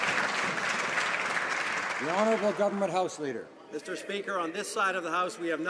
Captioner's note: some Applause